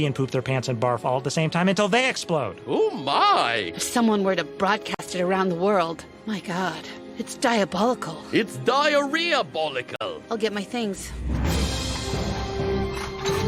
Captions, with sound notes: and barfrf all at the same time until they explodode. Ooh, my. If someone were to broadcast it aroundnd the world, my God. It's diabolical. It's diarrhea-bolical. I'll get my things. (tea set clinking)